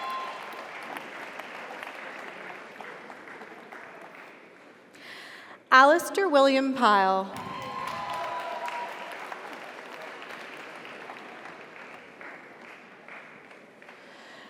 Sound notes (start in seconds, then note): 0.0 audience cheers; 0.0 audience applauds; 7.3 audience cheers; 7.4 audience applauds